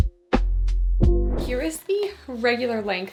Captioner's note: screen whooshing